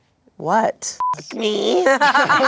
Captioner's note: beep; everyone laughs